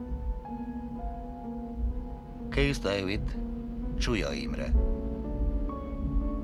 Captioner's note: helicopter blades whirring